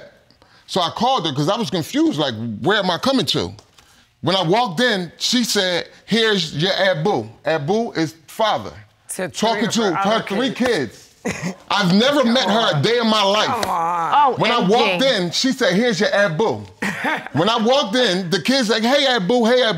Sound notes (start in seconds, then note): 11.2 laughs